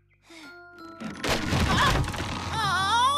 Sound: crash!

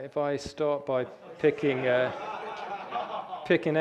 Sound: audience laughter

